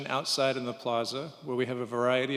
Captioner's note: none